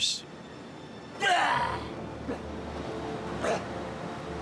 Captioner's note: battle cry